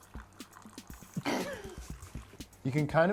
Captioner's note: water slowly trickling; laughs